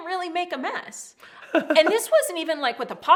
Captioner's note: laughs